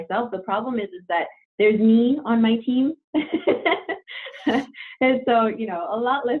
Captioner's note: laughs